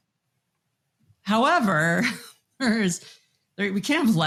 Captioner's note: chuckles